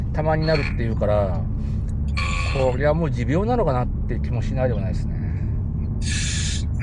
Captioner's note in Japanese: 咳払い